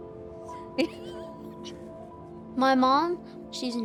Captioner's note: laughter